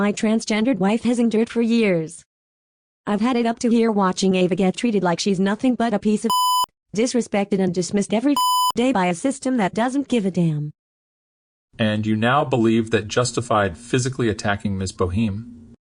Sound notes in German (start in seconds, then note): 6.3 Piep; 8.4 Piep